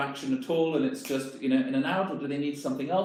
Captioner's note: snaps